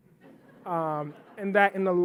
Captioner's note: audience laughing